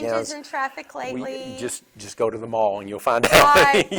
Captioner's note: laughs